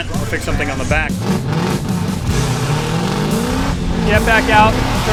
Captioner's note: engines revving